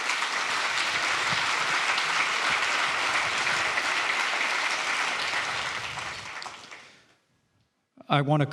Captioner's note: applause